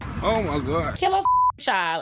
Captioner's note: beep